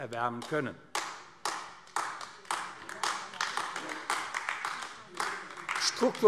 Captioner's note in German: Beifall AfD